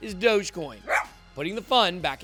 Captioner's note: dog barks